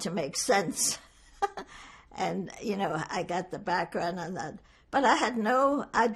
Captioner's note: laughing